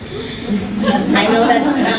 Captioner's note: laughter